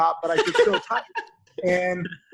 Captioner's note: laughter